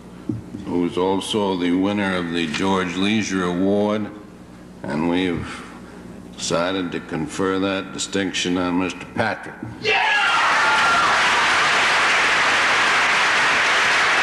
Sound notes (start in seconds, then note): 9.8 cheering